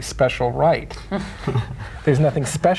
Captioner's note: group chuckling